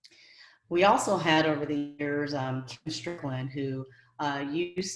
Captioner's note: audio distorting